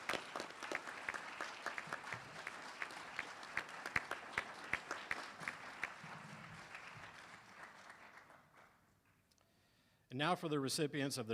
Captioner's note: applause